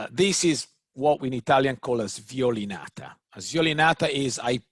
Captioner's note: speaks in foreign language